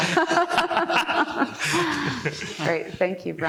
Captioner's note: laughing